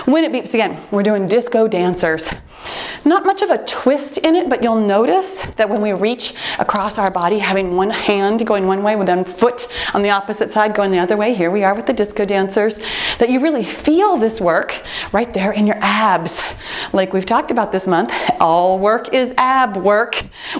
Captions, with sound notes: When it beeps again, we're doing disco dancers. Not much of a twist in it, but you'll notice that when we reach (timer beeps) across our body, having one hand going one way with one foot on the opposite side going the other way, here we are with the disco dancers, that you really feel this work right there in your abs. Like we've talked about this month, all work is ab work.